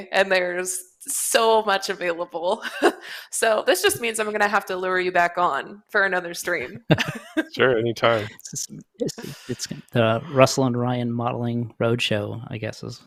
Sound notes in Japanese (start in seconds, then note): 6.6 笑い